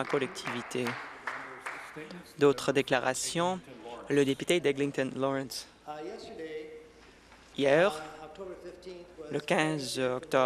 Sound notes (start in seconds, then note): 2.0 applause